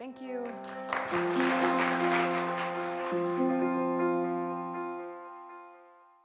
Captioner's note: gentle music; applauding